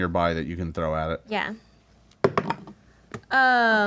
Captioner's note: dice thud